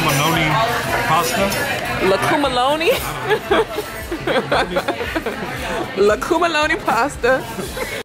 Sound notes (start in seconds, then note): 3.2 laughing